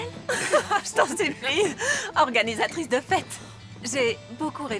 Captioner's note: laughing